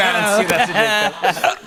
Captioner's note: laughter